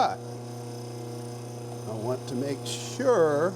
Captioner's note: machine buzzes